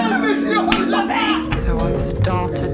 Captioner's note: smack